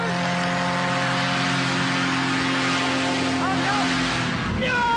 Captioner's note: plane engine roaring